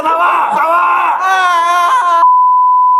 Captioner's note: screams